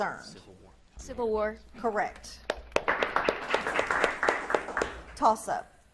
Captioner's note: audience claps